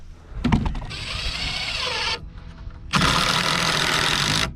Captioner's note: drill whirring